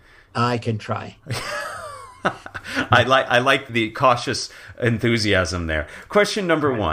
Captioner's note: laugh